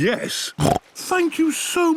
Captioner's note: snorts